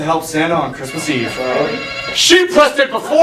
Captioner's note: buzzer buzzes